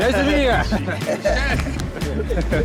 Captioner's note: laughter